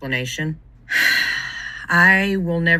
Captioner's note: exhales sharply